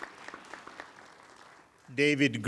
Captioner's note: applause